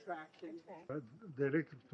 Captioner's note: indistinct chatter